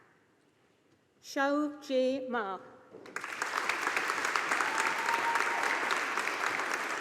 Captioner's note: audience applauding